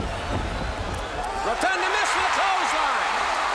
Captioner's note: crowd chatter